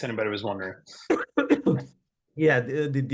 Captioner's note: coughing